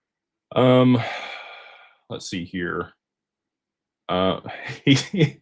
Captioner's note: sighs; laughter